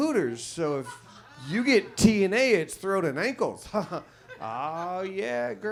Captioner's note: chuckles